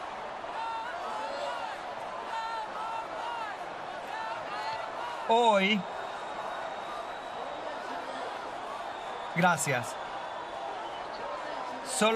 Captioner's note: audience chanting